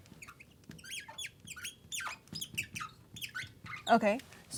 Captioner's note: marker Squeaking